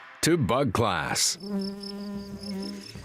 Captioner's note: bees buzzing